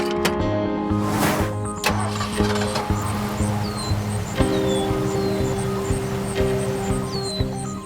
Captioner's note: engine starting